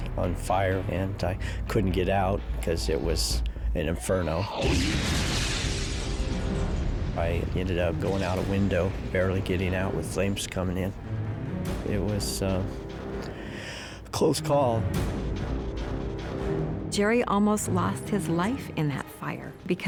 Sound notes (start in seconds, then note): 13.2 inhales